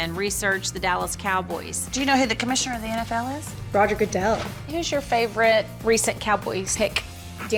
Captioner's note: none